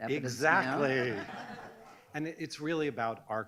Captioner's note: audience laughs